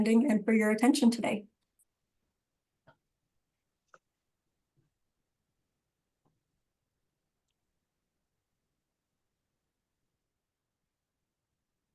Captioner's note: silence